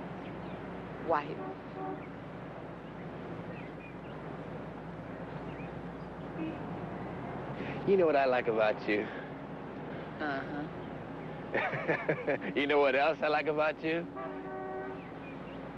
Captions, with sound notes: - Wife! (car horn honking) (birds chirping) - You know what I like about you? - Uh-huh. - (laughs) You know what else I like about you?